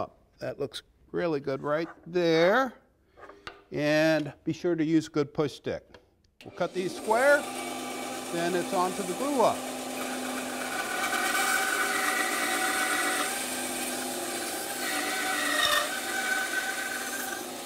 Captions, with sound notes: THAT LOOKS REALLY GOOD RIGHT THERE. AND BE SURE TO USE A GOOD PUSH STICK. CUT THESE SQUARE. [ SAW WHIRRING ] THEN IT'S ON TO THE GLUE-UP.